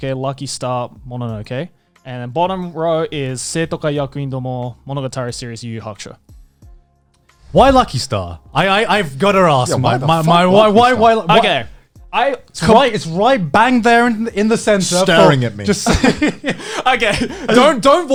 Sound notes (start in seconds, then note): 14.8 laughs